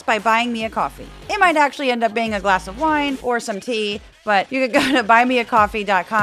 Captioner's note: laugh